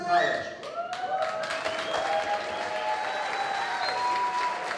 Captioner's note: applause